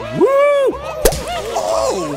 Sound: pop

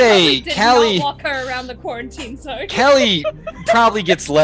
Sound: laughing

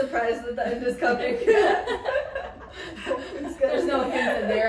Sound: women laugh

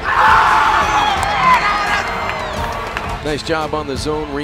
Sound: cheering

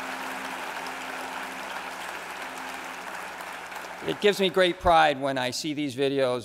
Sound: applause

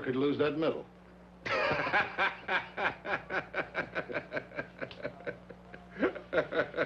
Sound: Roy and Mr. O'Malley laughing

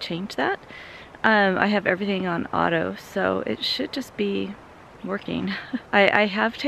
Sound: laugh

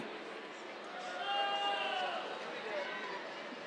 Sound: cheers

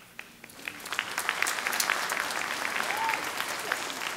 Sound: audience clapping

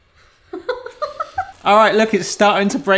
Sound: laughs

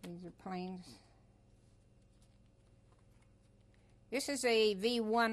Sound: pauses for 3 seconds

